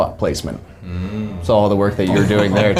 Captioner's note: laughing